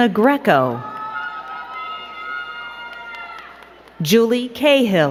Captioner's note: crowd cheering and clapping